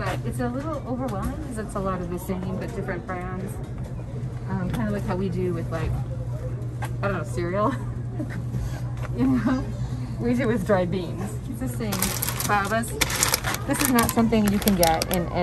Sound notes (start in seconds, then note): 7.2 speaker laughing